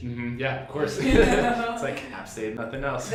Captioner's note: laughs